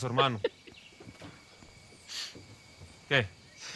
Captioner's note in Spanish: Risas